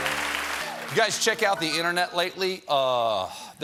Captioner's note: cheers and applause